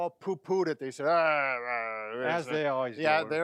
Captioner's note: grumbling